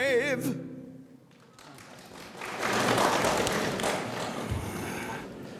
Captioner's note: audience applauds